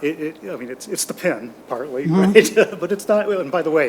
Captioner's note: laughs